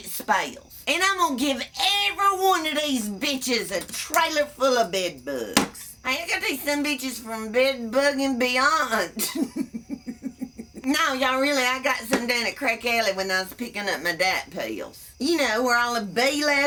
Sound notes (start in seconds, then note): 11.6 laughs